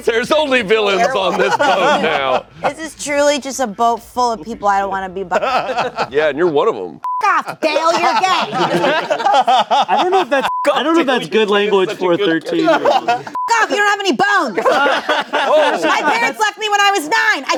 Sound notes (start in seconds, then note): 7.0 beep; 7.5 everyone laughing; 13.3 beep; 14.5 everyone laughing